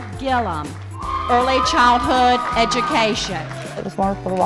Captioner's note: cheering